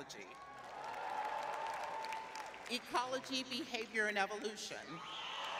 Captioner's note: cheering